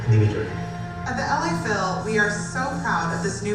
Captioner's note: voiceover